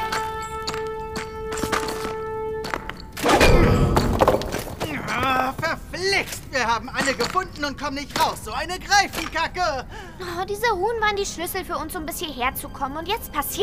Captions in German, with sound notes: (Ächzen) Verflixt, wir haben alle gefunden und kommen nicht raus, Greifenkacke! Die Runen waren die Schlüssel, um bis hierher zu kommen,